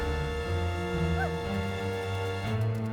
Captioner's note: whimpers